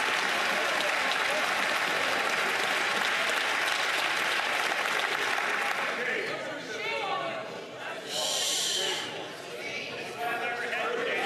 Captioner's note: some Applause